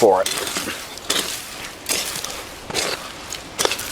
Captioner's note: digging